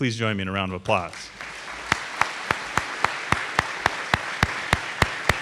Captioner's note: audience applauding